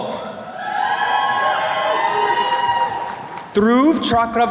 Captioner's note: attendees cheering